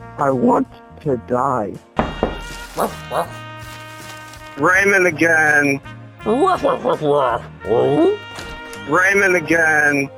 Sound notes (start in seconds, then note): 2.0 door knocking; 2.7 dog barking